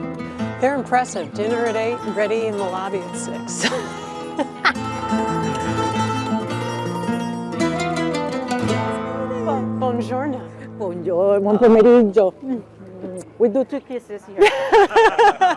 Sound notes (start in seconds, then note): 3.6 chuckles; 11.5 speaking Italian; 14.4 laughing